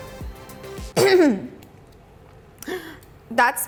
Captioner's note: clears throat loudly